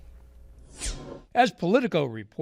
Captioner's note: screen whooshes